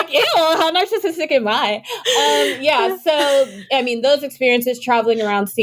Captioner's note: laughter